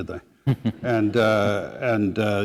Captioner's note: chuckle